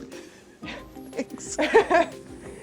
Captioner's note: laughs